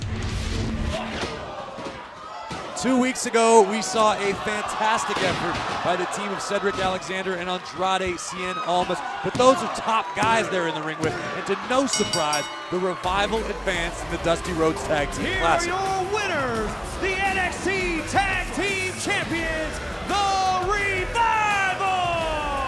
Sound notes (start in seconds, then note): 11.8 bell ringing; 19.3 crowd cheering